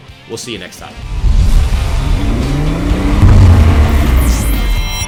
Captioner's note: sound effects